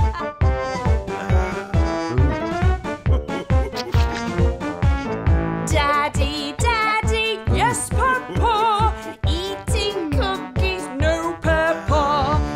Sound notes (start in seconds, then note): 0.2 mom giggling; 2.9 dad giggling